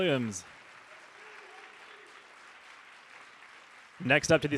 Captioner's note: audience applauding